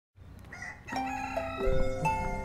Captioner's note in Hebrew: צליל של תרנגול